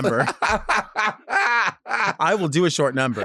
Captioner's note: laughing